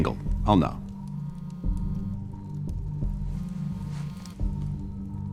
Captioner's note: cellphone buzzing